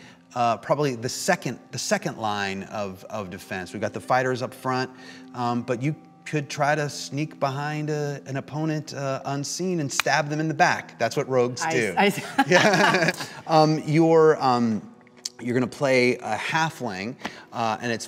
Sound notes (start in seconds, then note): 12.1 laughter; 12.3 laughs